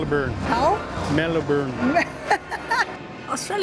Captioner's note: laughs